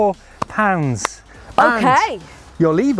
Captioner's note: clap